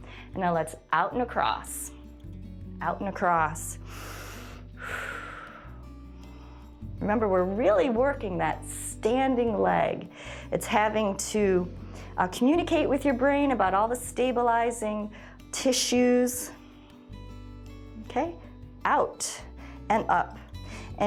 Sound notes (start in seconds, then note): 3.8 inhales and exhales